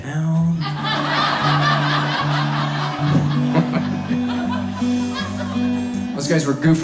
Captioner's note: audience laughs